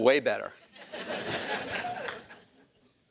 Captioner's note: laughter